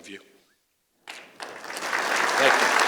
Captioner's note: applause